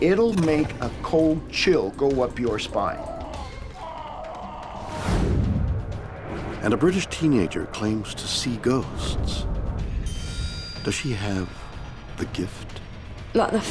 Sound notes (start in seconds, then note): 3.1 deep distorted voice screams